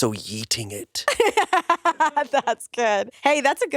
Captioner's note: laughs